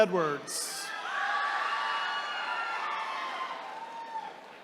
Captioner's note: attendees cheering